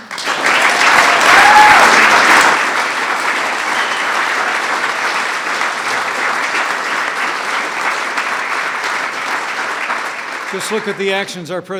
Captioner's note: applause